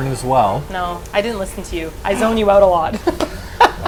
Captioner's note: laughs